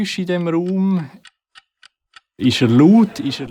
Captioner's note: ticking clock